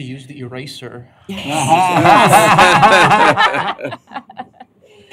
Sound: laughter

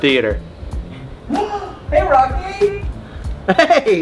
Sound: gasps

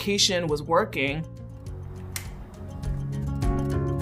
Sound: injector pen clicks; gentle piano and guitar music

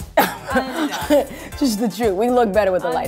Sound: laughing

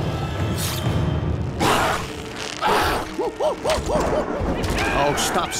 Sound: grunting

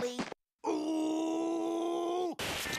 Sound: grunting

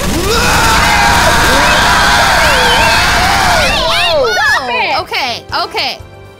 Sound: machine gun fires; screams

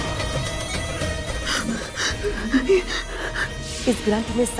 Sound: shallow breathing

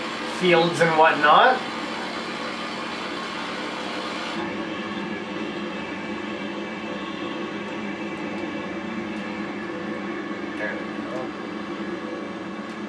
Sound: engine hums

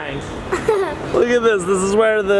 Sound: chuckles

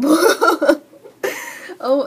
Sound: laughing

